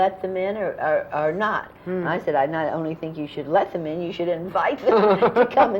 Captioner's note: laughter